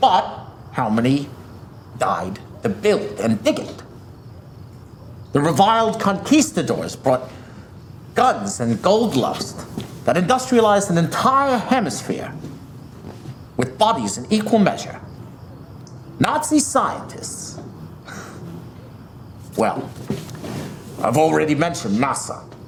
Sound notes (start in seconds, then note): 18.0 Janus chuckles